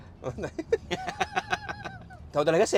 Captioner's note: laughs